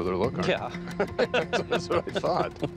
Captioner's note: laughs